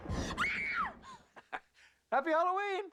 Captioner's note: screams